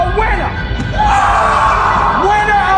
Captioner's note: screams